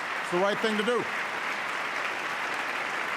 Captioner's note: applause